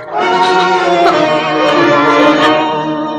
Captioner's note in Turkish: Hıçkırıklar